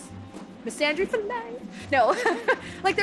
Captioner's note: laughs